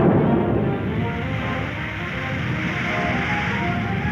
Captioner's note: hissing